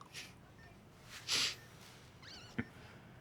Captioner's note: Florio sobs